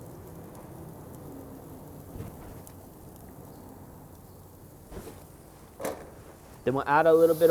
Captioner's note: sizzling